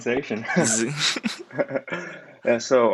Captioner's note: laughter